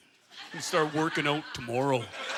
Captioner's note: in deep voice